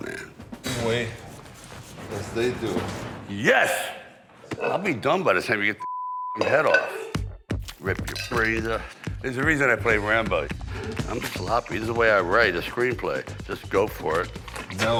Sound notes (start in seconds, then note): 5.8 beep